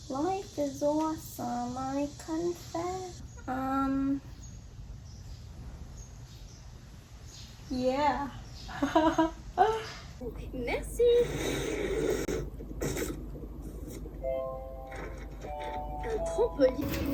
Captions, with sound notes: *singing* life is awesome, I confess umm.. ... yeah [awkward laugh]